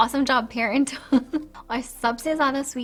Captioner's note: laughs